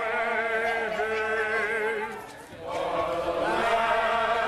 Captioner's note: crowd chanting